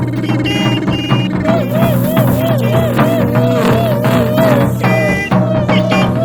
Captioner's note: honking; sirens; honking